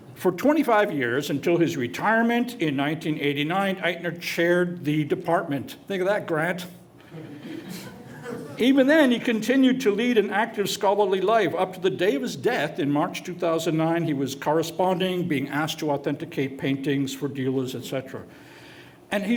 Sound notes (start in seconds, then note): 7.1 light laughter